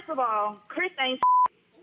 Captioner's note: beep